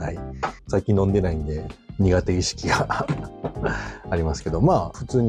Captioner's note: laughs